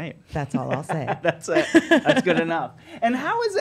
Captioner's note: laughing